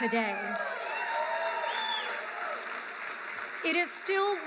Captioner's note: applause